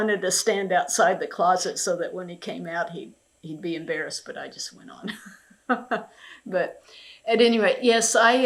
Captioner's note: laughs